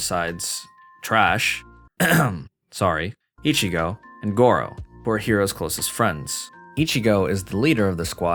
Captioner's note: cough